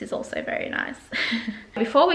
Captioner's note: laughs